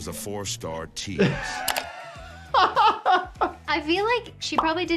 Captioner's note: doctor laughing